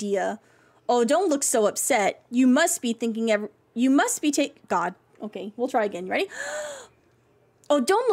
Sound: big Inhale

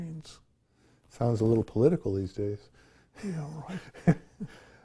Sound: chuckles

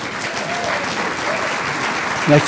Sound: applause

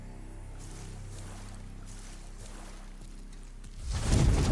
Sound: water sloshing

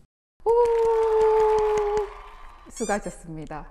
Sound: clap clap clap

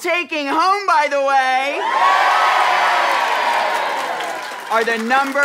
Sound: audience cheering

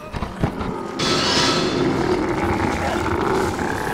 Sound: grunting; tense instrumental music

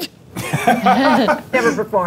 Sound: laughs

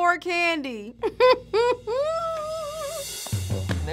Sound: laughing

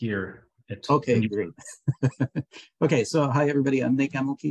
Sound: laughing

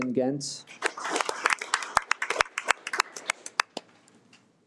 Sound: audience applauding

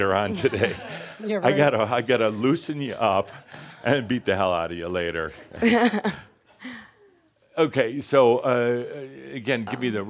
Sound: she chuckles

